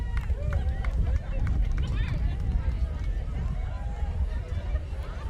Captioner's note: audience cheering